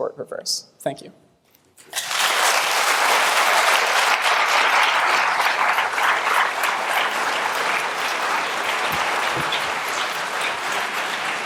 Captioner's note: applause